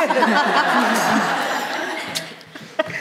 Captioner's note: laughter